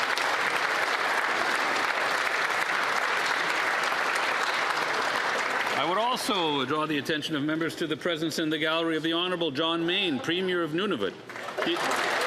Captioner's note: applause